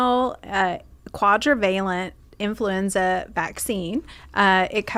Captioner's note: breathe blowing